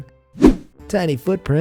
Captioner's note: air whooshing